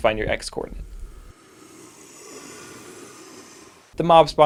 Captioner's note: crickets